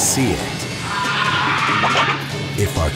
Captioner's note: shrieks